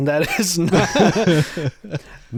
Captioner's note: both laughing